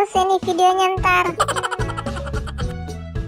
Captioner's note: sound laugh